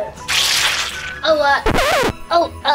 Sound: liquid squishes; record scratches

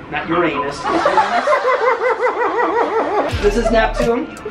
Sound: crowd laughing

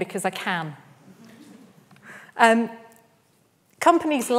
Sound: audience laughs

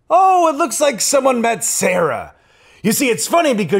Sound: none

